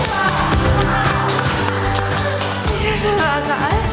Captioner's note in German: Jubel, Applaus, heitere Musik